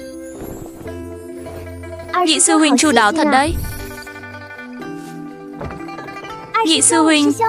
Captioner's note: chuông